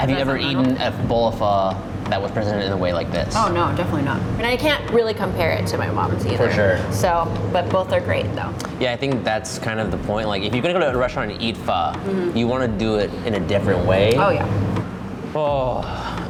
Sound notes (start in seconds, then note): none